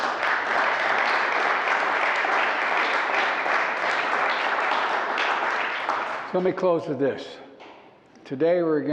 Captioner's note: applause